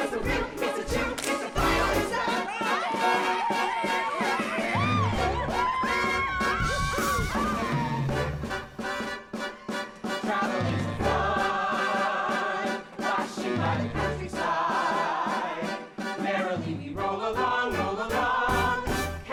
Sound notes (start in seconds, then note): 2.6 wild chatter, whooping; 5.1 lively music playing